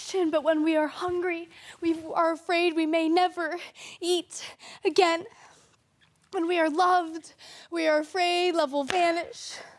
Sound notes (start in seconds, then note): 5.3 soft breathing